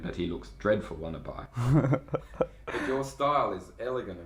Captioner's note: laughs